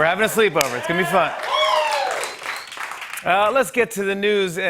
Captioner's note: cheers and applause